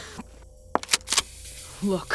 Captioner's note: sound of walking, gun clicks